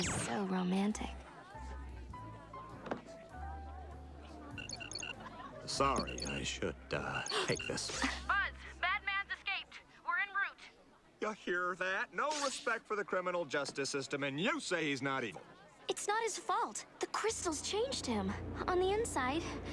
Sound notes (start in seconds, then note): 4.5 beeps